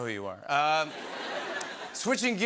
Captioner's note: laughter